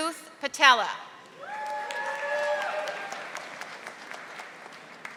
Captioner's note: audience applauding